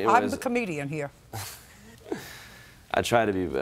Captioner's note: chuckles